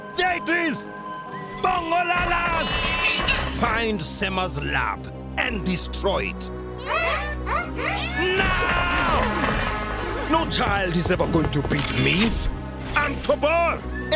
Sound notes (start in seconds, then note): 2.6 squealing; 7.9 gasping